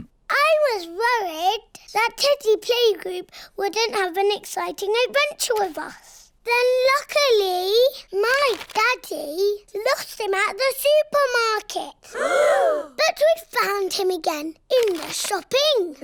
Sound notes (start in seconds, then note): 12.1 all gasp